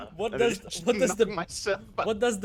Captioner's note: laughs